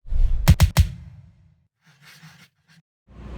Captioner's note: air whooshing